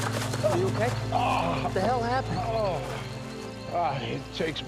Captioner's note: groans